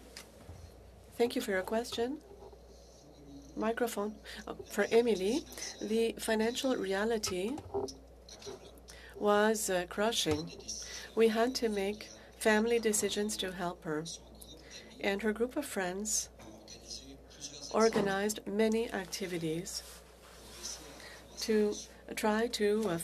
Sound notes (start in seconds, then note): 6.3 speaking French